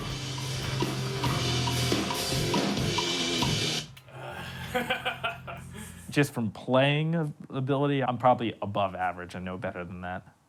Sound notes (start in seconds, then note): 4.1 laughs